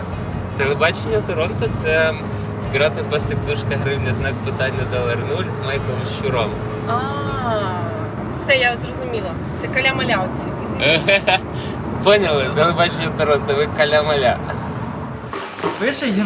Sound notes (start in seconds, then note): 8.7 laughs